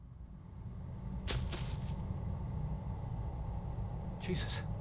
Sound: thudding

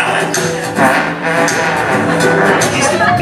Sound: vocal trombone

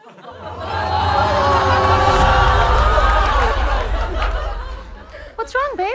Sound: audience laughter

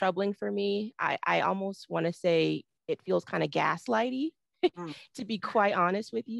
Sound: chuckles

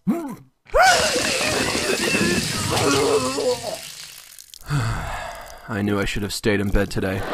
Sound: vomiting; sigh

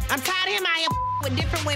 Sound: beep

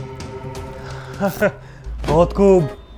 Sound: laughs

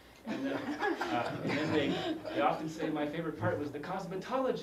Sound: laugh

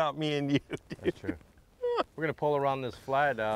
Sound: hearty laughing

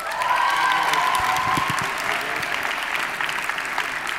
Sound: audience applauding

